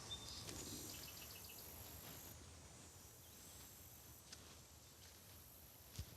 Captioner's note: birds chirping